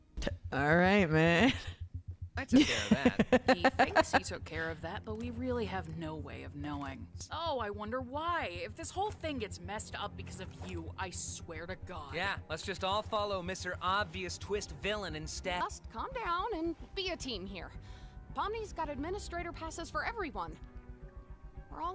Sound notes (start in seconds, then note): 2.5 laughing